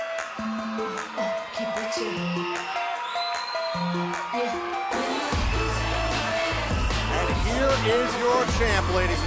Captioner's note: crowd cheering